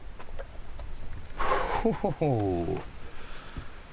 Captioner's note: insects chittering; laughs